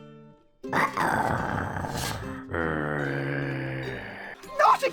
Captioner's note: snarl